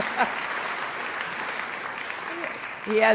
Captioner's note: applause